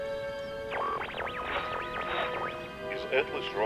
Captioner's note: phone beeping and whirring